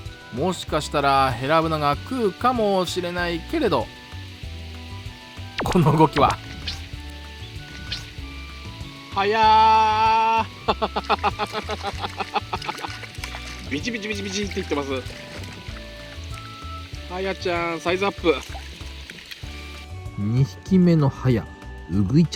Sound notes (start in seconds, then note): 14.9 he laughs as he realizes everything